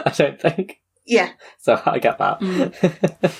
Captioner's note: laughing